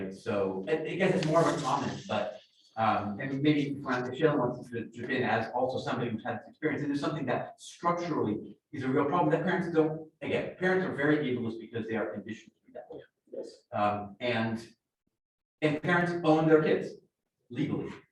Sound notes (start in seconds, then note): none